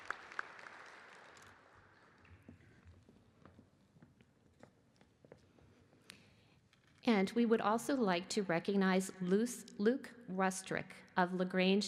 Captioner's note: applause